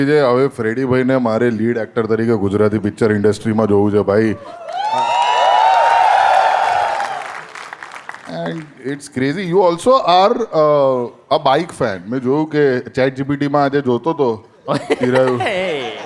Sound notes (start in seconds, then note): 4.5 crowd applauding